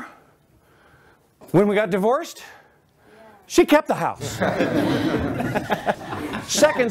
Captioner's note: laughter